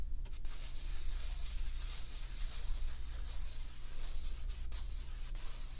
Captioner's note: paper rubbing